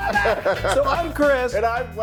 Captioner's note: laughing